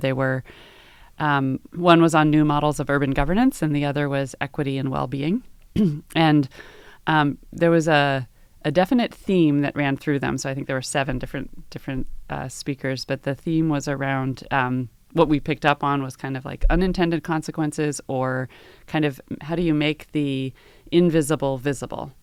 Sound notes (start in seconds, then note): 5.7 cough